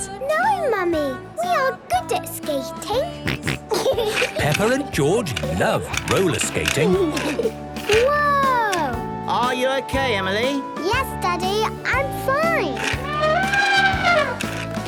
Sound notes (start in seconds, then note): 3.2 snorting and giggling; 6.9 laughter; 12.5 trumpeting